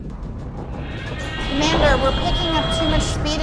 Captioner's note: alarms blaring